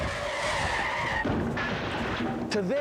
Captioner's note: <i> tires screeching</i>